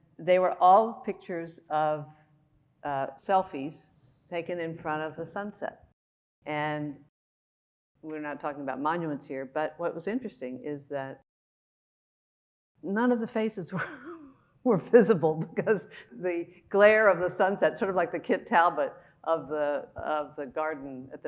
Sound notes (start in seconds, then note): 14.9 chuckling